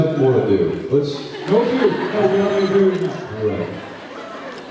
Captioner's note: laughs